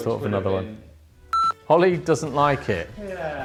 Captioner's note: computer beeps